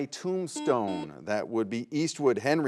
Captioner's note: buzzer buzzes